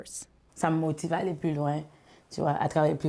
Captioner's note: speaking foreign language